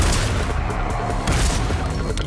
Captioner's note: shotgun booms